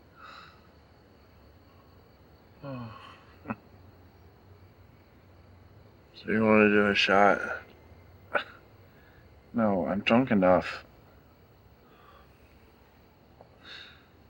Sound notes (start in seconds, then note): 2.6 sighs; 8.3 scoffs